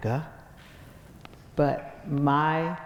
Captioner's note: none